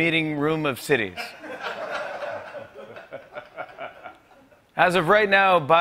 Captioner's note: laughter